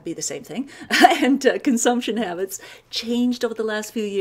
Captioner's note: laughs